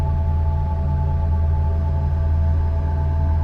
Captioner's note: none